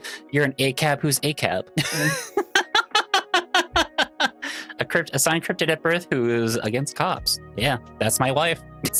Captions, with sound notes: You're an ACAB who's ACAB. (laughs) Assigned cryptid at birth who is against cops. Yeah, that's my wife.